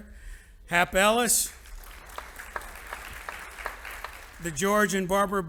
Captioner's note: audience applauding